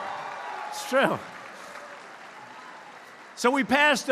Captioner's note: applause